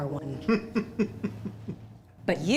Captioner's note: laughs